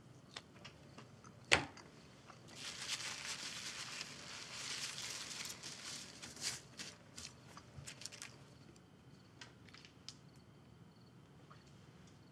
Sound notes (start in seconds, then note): 2.5 paper rustling